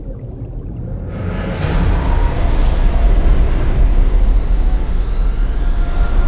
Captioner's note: water burbling; suspenseful music